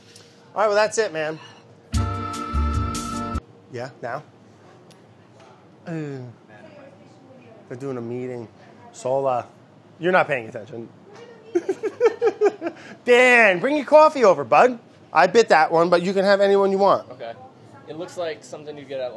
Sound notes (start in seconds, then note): 1.9 upbeat music; 11.5 laughter